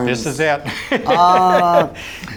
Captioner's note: laughs